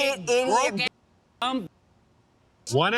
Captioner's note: muted